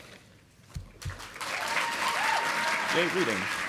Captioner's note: audience applauding